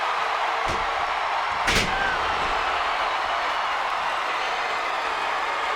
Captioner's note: audience cheering